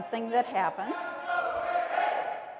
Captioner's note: loud chanting